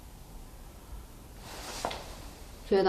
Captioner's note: faint breath exhales